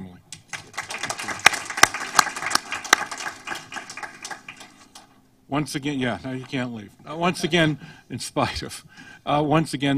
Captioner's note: applause